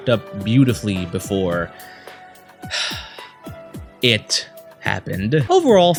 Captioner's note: sigh